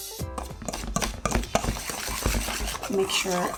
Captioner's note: whisking